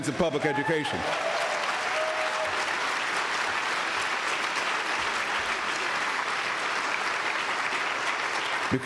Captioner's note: applause